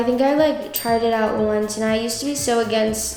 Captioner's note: bell chimes